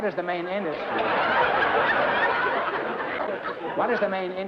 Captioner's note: laughter